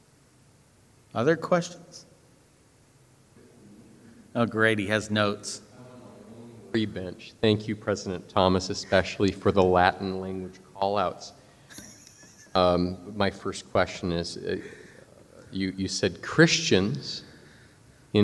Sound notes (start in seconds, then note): 3.4 speaks faintly; 11.6 chuckles